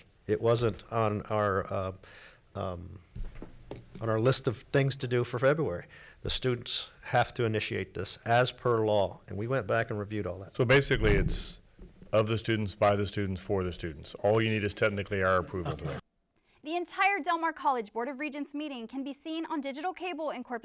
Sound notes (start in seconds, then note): 15.6 laughter